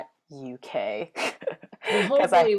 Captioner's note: laughs